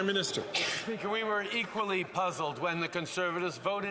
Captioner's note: some Applause